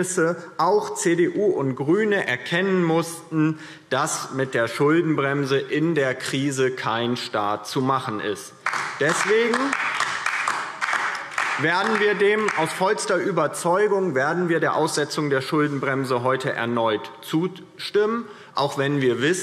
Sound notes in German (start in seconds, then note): 8.6 Beifall DIE LINKE